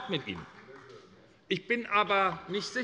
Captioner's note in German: Beifall bei Abgeordneten der SPD